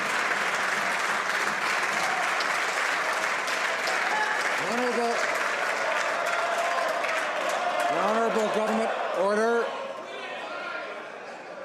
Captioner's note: some Applause